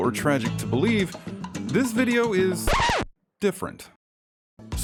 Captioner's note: 🎵 Record Scratch 🎵